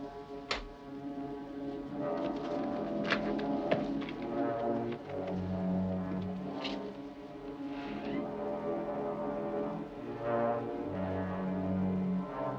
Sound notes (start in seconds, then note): 7.8 door creaking